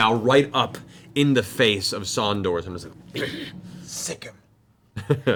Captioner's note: grunts